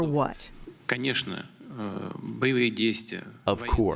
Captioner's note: speaking in foreign language